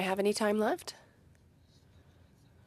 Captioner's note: speaking in French